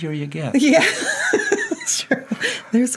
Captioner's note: laughs